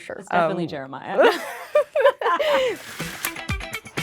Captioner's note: laughing; bright rhythmic music